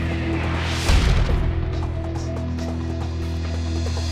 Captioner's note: graphic thudding; upbeat music